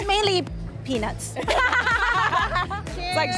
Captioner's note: both laugh